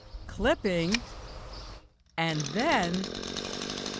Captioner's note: scissors snipping; shears clipping; gas motor revving